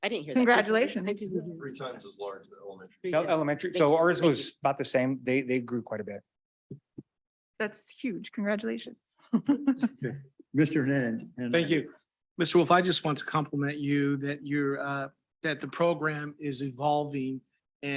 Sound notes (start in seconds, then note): 9.3 chuckles